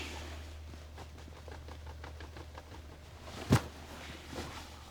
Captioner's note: fist tapping